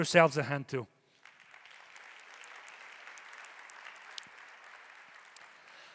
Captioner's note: audience applauding